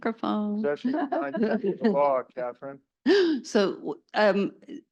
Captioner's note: laugh